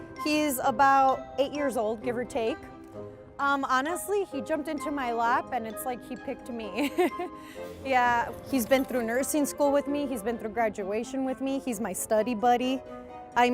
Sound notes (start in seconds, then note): 6.8 chuckles